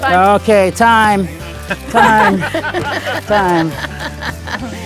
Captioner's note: group laughing